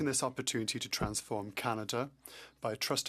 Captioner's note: speaking French